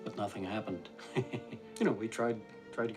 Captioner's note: laughs